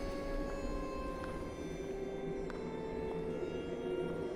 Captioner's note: footsteps tapping